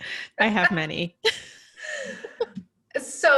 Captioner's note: laughing